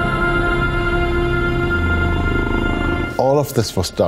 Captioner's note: helicopter Drones